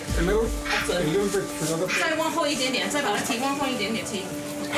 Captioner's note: translating in Chinese